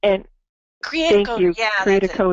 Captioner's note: laughs